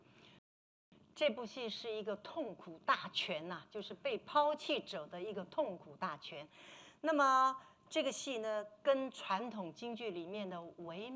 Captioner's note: speaking Mandarin